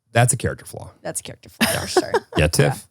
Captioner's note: laughs